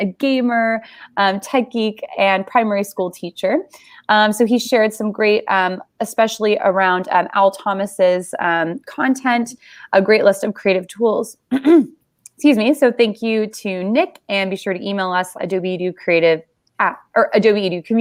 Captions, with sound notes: a gammer, tech geek, and primary schoolteacher. So he shared some great, especially around Al Thomas' content, a great list of creative tools. (clearing throat) Excuse me. So thank you to Nic. And be sure to email us at adobeducreative,